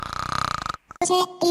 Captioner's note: Tom Nook snoring